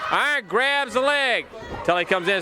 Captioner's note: crowd cheering